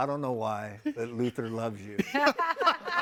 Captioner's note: hosts laughing